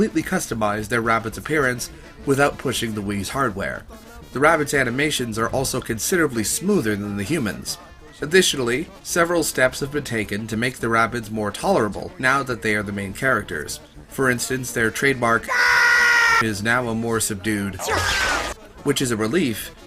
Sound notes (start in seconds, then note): 15.5 ear-splitting scream; 17.8 more reasonable-sounding scream